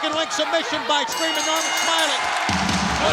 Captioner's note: bell rings